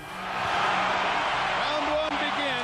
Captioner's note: crowd cheering